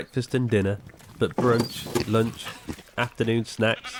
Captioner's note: Del thudding; goat bleating